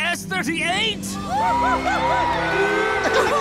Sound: cheering

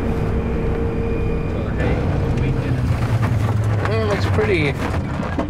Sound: tires rumbling

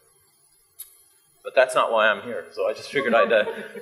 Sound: audience laughs

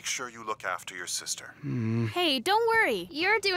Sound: grumbling

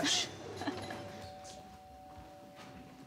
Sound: doorbell sounding

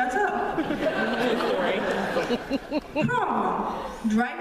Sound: laughter

